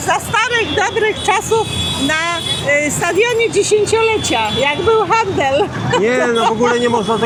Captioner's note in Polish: śmiech